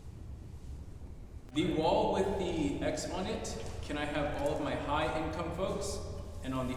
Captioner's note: offscreen voice